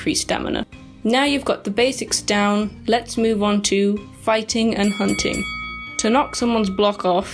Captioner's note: wrestler Bell Rings